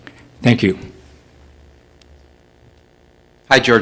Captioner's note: voiceover